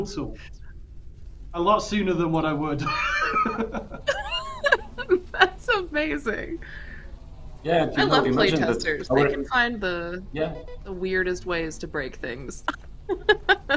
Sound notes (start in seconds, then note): 1.6 laughs